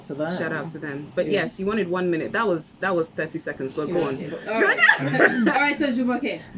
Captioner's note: laughs